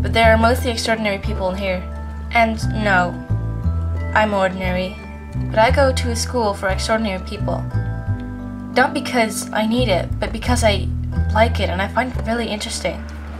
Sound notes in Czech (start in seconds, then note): none